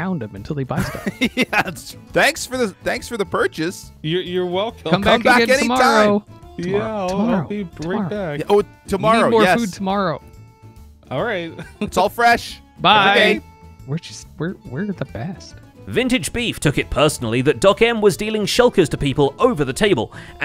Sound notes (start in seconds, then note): 0.8 laughs; 6.9 whispers